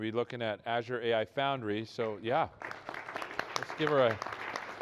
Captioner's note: applause